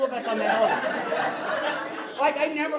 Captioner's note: audience laughing